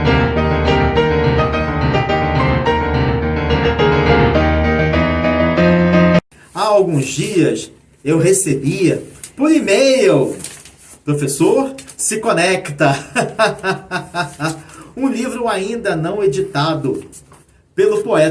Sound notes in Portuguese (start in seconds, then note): 12.9 risadas